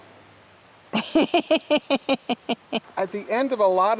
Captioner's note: laughing